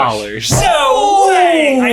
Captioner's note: both exclaim